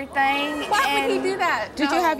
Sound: audience gasps

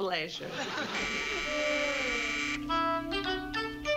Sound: doorbell buzzes

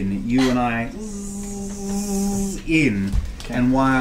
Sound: buzzes

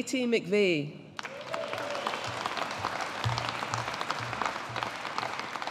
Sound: audience applauding

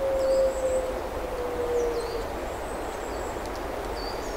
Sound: owl calling out

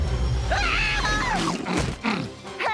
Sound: screaming

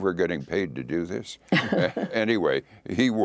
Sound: laughter

